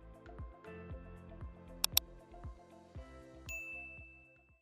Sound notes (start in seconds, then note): 1.8 click; 3.5 ding